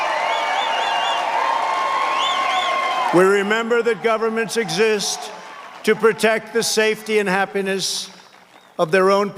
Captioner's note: cheers and applause